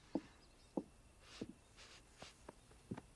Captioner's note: sniffs